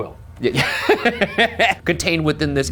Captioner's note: laughs